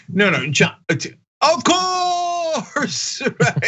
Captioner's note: laugh